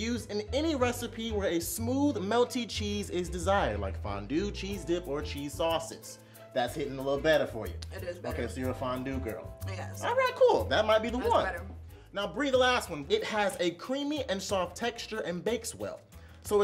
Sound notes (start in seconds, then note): none